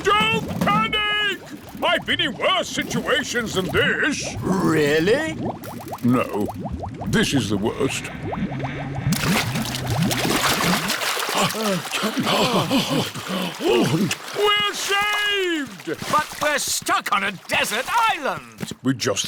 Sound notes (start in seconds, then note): 11.3 all puff and pant